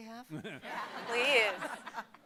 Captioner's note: audience and panelists laughing